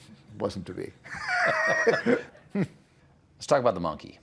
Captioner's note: laughter